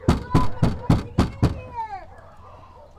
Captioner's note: banging